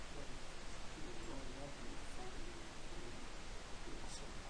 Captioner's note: man speaking